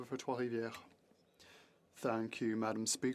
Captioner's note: speaking French